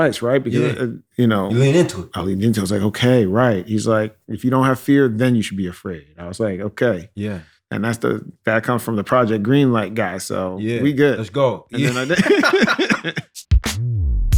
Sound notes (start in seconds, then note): 11.8 laughter